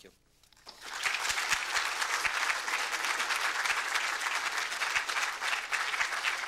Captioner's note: applause